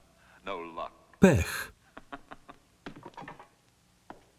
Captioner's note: laughing